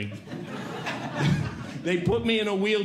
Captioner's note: audience Laughing